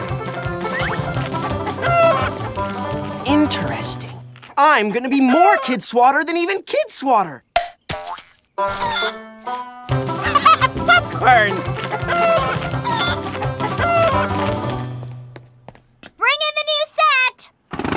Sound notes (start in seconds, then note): 0.6 clucks like a chicken; 8.6 clucks like a chicken; 10.1 giddy laugh; 10.2 clucking like chickens